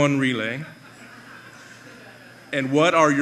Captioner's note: laughter